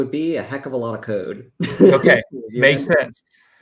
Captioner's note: laughs